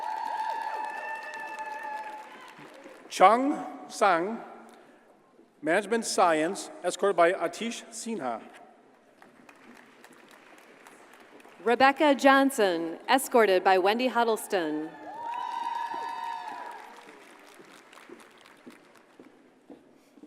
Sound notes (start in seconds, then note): 0.0 audience cheers and applauds; 9.1 audience applauds; 15.0 audience cheers and applauds